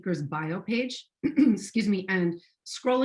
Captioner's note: clearing throat